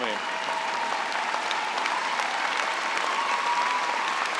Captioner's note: cheering and applause